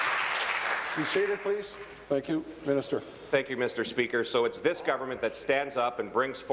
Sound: applause

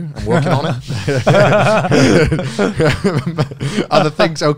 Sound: everyone laughs

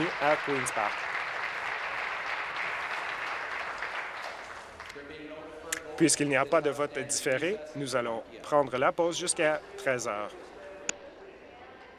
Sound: applause

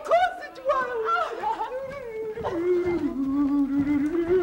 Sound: humming

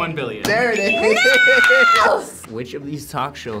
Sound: laughs

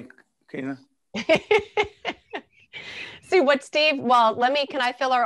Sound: laughing

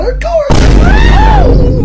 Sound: boom

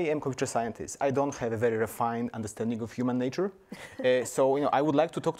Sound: panelists laugh

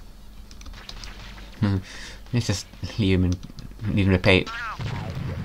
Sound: snigger

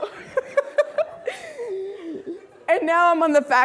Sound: laughing

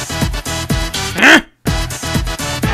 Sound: grunt

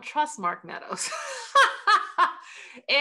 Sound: laughter

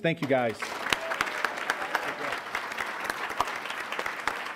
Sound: applause

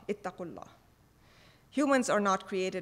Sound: speaking foreign language

